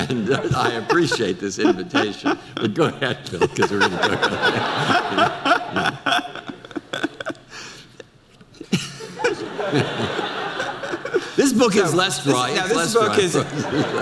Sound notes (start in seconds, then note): 3.8 audience laughter; 3.8 laughs; 13.8 audience laughter